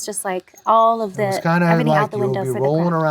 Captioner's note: laughs